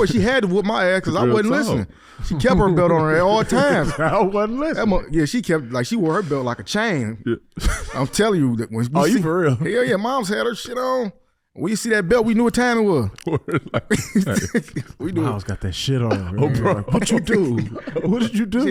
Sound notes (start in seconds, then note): 13.1 laughing